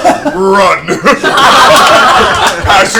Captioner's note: all laugh